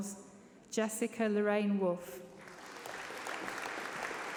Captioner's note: applause